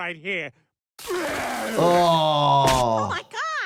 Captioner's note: Peter puking